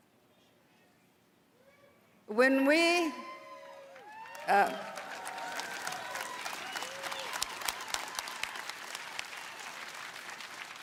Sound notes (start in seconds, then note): 0.0 speaking indigenous language; 7.9 applause